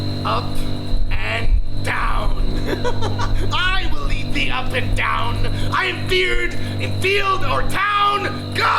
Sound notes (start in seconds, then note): 2.5 laughs